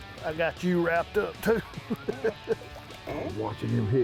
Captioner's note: laughing